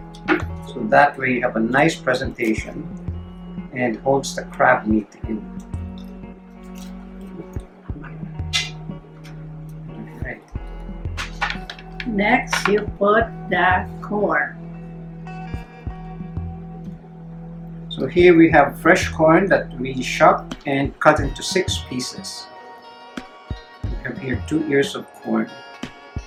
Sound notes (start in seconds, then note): 6.6 tongs click